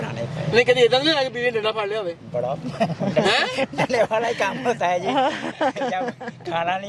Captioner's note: laughing